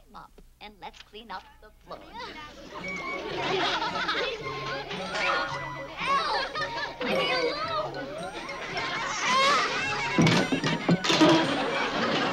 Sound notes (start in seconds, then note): 2.0 children's laughter; 9.5 banging